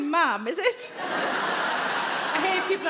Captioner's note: audience laughing